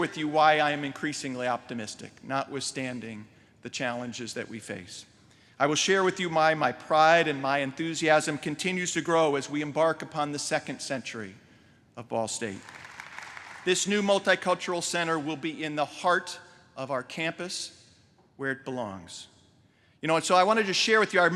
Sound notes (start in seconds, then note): 12.4 applause